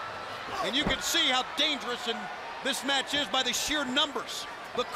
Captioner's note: crowd cheering